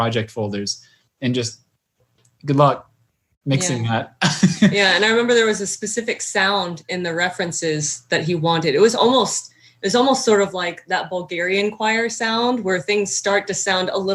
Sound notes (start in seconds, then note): 6.0 chuckling